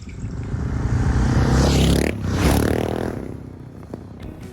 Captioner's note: motorcycle engine revving